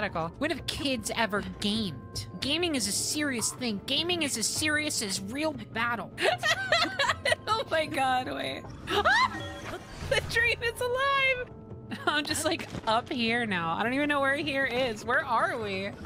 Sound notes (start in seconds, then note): 6.2 laughter; 8.8 yell